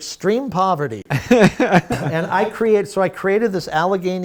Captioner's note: laughing